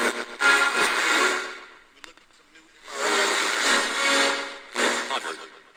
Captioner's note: radio static